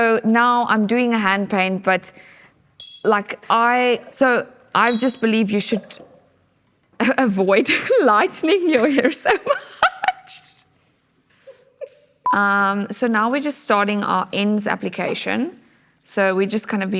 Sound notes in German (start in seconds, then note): 11.9 lacht